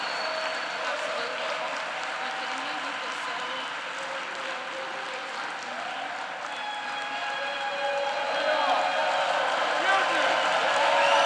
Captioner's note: applause